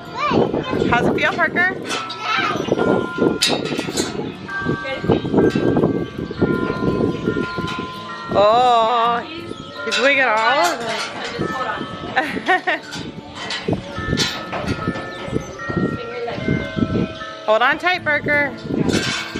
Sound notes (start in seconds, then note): 3.1 bells ring; 12.1 laughs; 13.9 bells ring